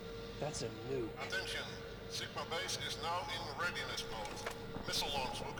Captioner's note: pa system